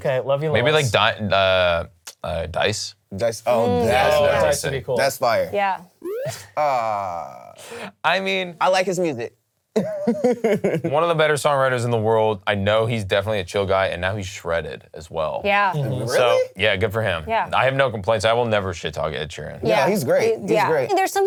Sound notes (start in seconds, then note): 9.8 laughs